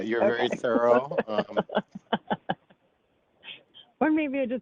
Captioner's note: laughter